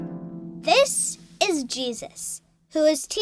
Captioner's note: voiceover